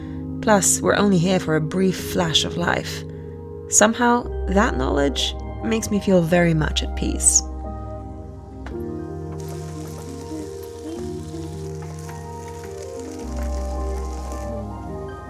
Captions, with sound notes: Plus, we're only here for a brief flash of life. Somehow that knowledge makes me feel very much at peace. (cooking and frying loudly) (gentle music)